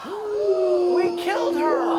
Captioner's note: gasps